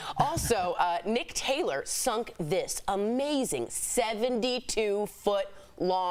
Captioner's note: laughter